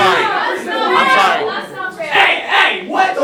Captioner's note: green yelling; still yelling